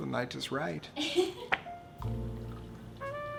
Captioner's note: laughs